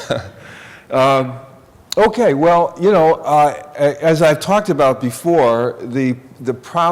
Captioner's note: laughter